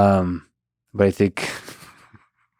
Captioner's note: laughs